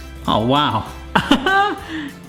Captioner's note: laughs